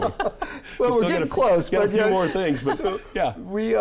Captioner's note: laughing